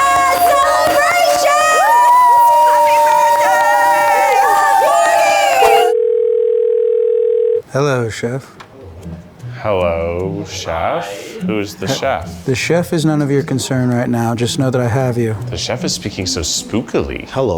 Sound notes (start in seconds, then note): 0.0 everyone cheers; 1.9 everyone cheers; 5.6 phone ringing